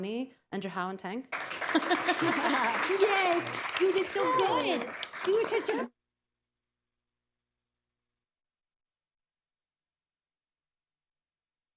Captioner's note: laughter, applause